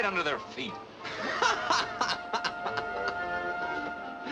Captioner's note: cowboy laughs